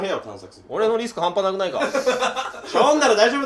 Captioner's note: laughing